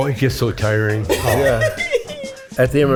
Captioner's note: laughs